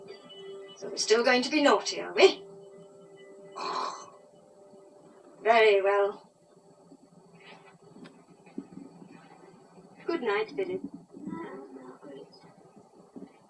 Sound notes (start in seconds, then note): 3.4 snores louder